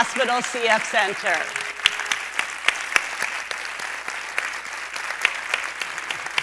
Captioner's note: applause